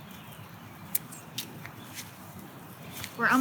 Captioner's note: scissors snipping